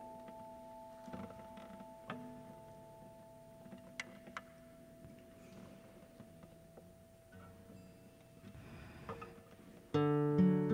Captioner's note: silence